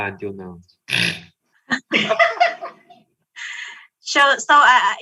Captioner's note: laughing